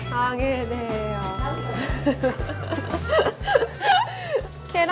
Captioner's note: awkward laughter to close the bit